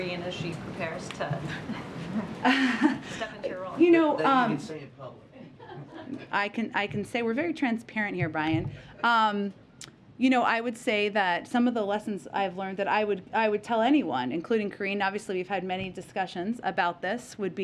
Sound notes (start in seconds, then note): 5.4 laughter; 9.0 laughter